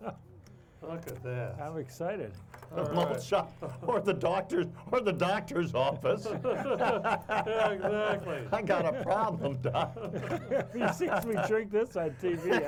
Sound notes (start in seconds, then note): 2.2 chuckling; 5.7 all laughing